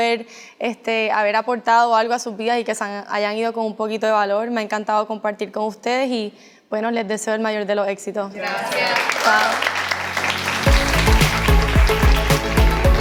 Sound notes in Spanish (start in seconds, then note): 8.4 Aplausos